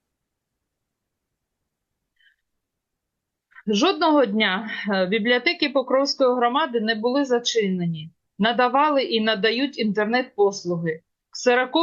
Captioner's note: foreign language